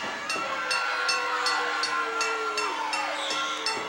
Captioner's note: bell dinging